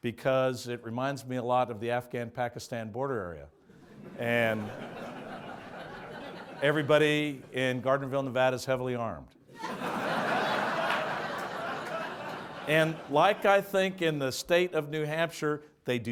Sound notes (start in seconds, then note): 3.7 audience laughs; 9.5 audience laughs